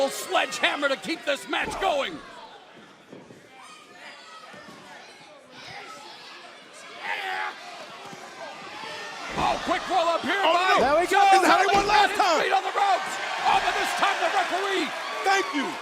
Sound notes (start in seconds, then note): 5.3 crowd chatter